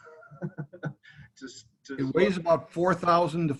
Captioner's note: laughing